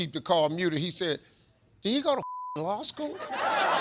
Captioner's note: beep; audience laughs